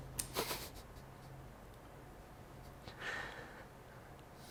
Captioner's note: cries